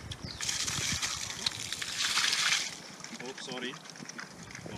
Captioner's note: water splashing